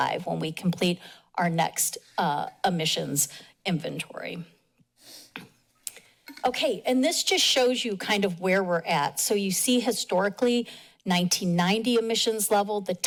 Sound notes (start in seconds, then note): 4.5 pause